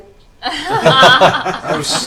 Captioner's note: all laugh